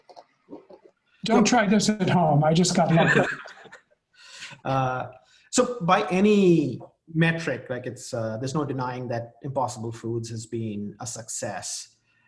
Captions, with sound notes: Don't try this at home, I just got lucky. (laughing) - So, by any metric, like, there's no denying that Impossible Foods has been a success.